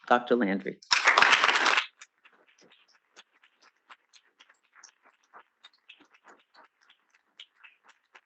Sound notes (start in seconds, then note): 0.9 students clapping